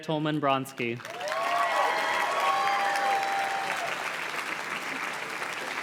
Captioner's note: audience cheers and claps